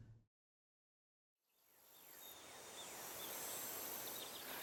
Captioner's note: birds chirping